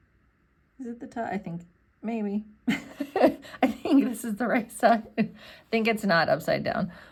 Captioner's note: laughs